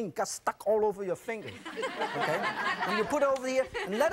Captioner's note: audience laughs